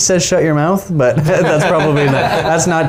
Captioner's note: all laughing